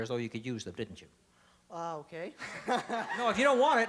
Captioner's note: laughs